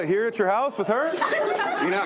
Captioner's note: laughter